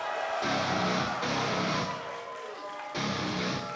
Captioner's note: crowd cheering